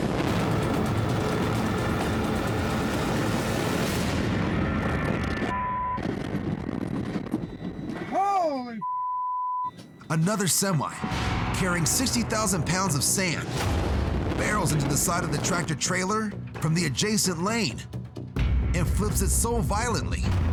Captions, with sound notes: >>Holy (beep) >>Another semi carrying 60,000 pounds of sand barrels into the side of the tractor trailer from the adjacent lane and flips it so violently